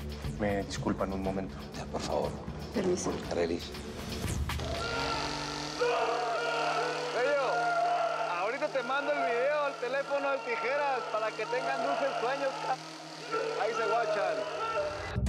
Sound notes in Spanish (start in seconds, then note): 4.5 Ruido de la motosierra; 5.7 Gritos